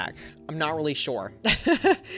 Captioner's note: laughs